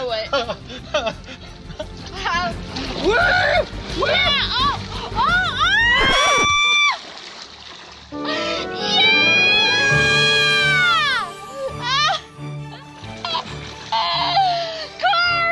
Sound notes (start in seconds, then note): 0.2 laughs; 3.0 yelling; 5.9 record scratching; 10.9 light cheery music; 12.6 laughs